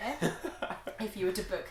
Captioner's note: laughing